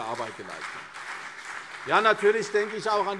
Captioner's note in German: Beifall CDU und BÜNDNIS 90/DIE GRÜNEN